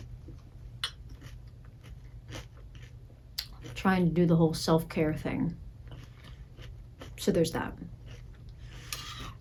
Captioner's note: chewing